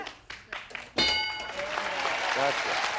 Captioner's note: ding